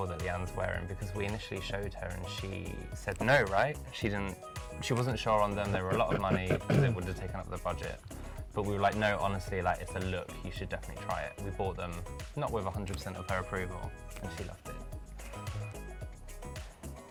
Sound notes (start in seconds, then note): 5.7 clearing throat; 15.6 upbeat music